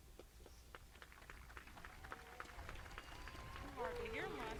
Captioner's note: crowd applauding